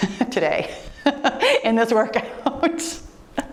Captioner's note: laughs